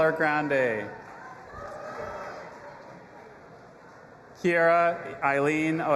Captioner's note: audience applauding and cheering